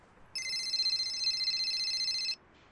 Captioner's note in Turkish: Telefon zil sesi